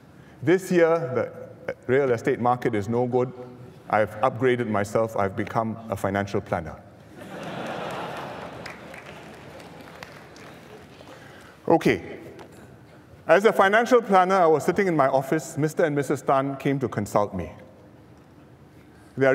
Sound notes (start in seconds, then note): 7.1 laughter